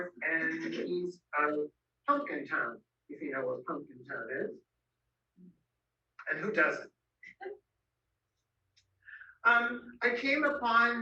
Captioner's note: background laugh